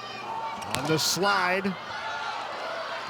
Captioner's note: players shouting indistinctly; ball thumping